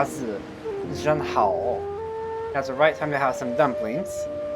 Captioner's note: speaking Mandarin